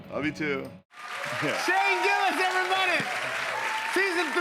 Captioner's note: cheers and applause